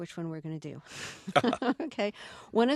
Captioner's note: soundbite of laughter